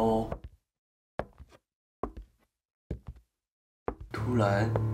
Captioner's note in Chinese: 脚步声